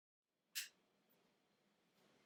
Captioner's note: a light switch clicks